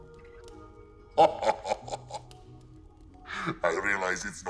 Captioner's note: ghost chuckles